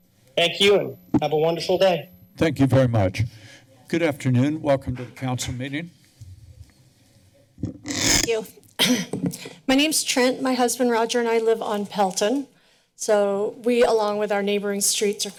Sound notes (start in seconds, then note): 8.8 clears throat